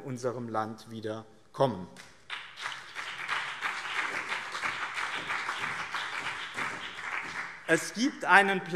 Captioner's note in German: Beifall BÜNDNIS 90/DIE GRÜNEN und CDU